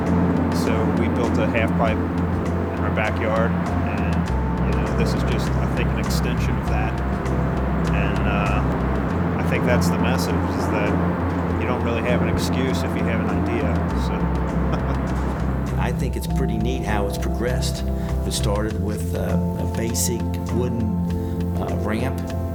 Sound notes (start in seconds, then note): 14.4 laughs